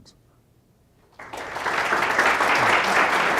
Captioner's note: applause